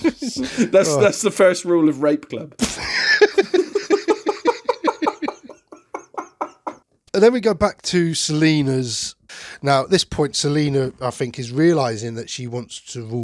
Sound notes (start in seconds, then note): 2.6 laughter